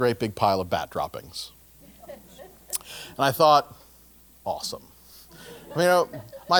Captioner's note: laugh